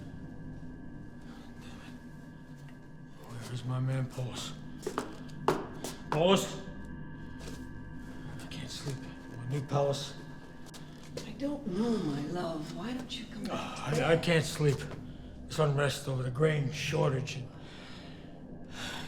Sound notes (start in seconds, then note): 14.1 sighs; 18.8 sighs